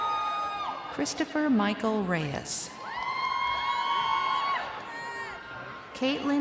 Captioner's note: crowd cheering